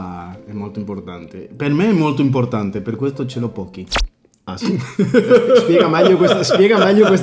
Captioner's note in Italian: risate